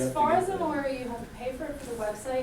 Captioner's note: voiceover